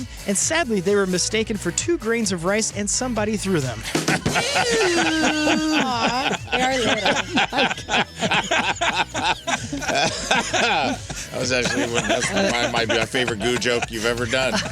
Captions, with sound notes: And sadly, they were mistaken for two grains of rice and somebody threw them. Ew. Aw. [LAUGHTER] That was actually one of my favorite goo joke you've ever done.